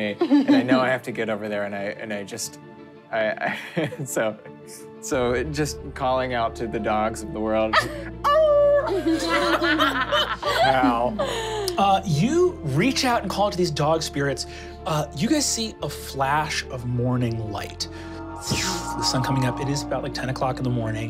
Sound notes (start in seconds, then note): 8.7 howls; 8.8 laughing